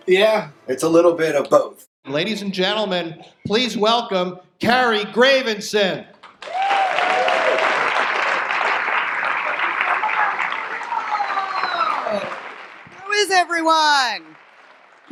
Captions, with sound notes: - Yeah. - It's a little bit of both. - Ladies and gentlemen, please welcome Carrie Gravenson. (audience applause) - How is everyone?